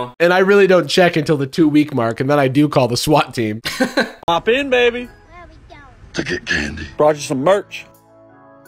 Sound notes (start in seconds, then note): 3.8 laughs; 6.1 demonic voice